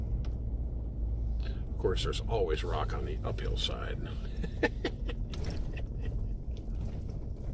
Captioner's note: laughing